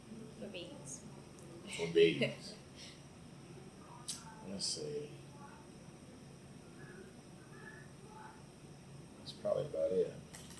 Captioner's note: laughs